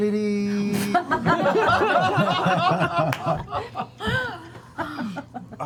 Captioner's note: laughter